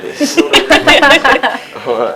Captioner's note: laughter